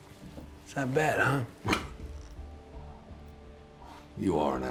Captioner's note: scoffs